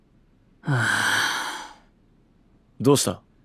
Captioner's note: sigh